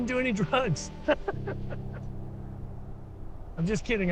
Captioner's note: laughing